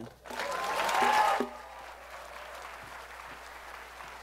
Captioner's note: applause